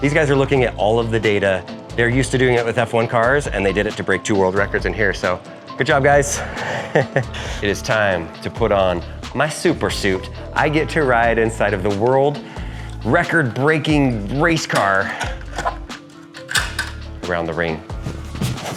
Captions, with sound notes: These guys are looking at all of the data. They're used to doing it with F1 cars and they did it to break two world records in here. So, good job guys. (chuckles) It is time to put on my super suit. I get to ride inside of the world record breaking race car (hanger clanking) around the ring.